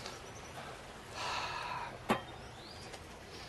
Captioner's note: james sighs